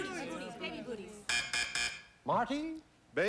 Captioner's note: buzz buzz buzz